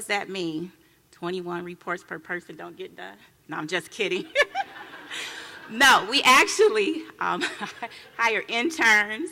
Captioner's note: laughing